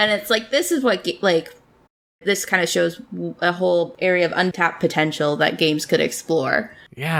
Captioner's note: laughs